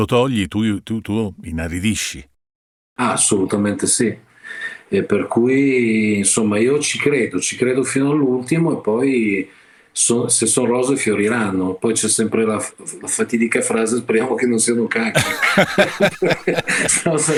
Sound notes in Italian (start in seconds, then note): 15.1 Risate